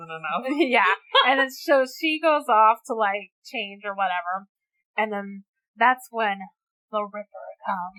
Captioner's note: laughs